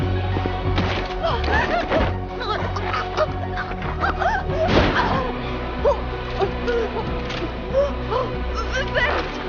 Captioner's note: gasping and choking for breath